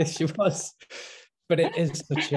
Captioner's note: both laughing